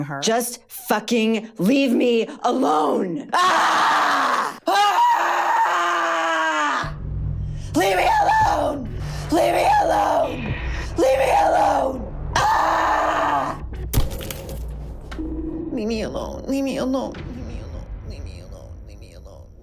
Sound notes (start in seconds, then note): 3.3 screams; 12.3 screams; 13.9 glass smashing